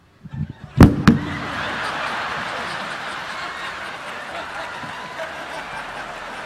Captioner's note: speaking in Japanese; audience laughing; mic thudding on floor